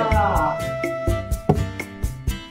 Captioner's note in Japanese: ダーツの刺さる音